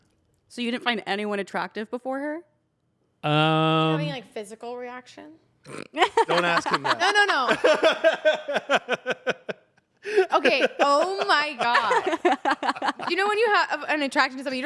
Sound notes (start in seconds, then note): 7.9 laughs